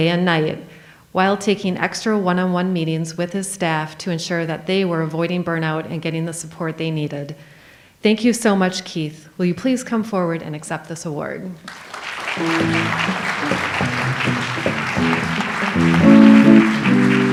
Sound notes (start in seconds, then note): 11.6 audience applauds; 12.4 light jazz music